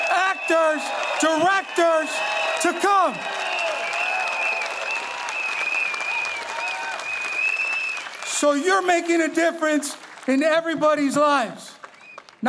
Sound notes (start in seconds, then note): 3.8 audience applauding